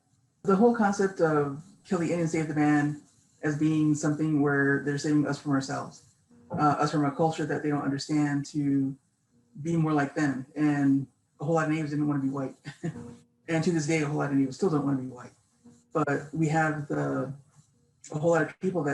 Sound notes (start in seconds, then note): 12.4 laughs softly